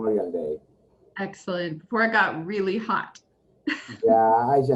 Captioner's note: laughs